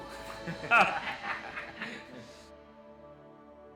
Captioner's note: laughs